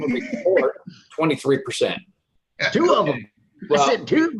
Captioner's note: laughing